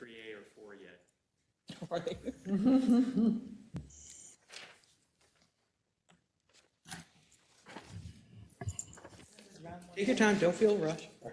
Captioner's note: laugh